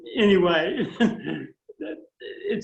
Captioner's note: laughter